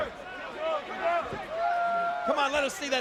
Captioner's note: crowd chattering